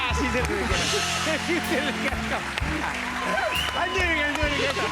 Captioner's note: laughing